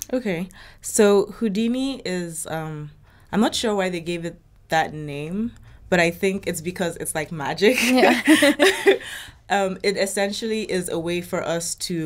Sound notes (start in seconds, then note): 7.8 both laughing